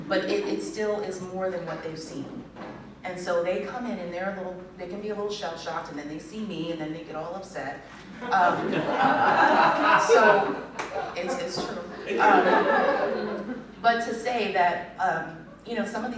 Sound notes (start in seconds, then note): 8.2 laughter